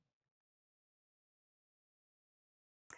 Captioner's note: none